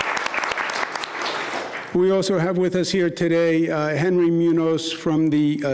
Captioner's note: applause